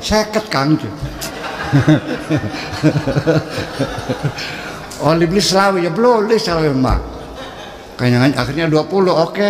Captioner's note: laughs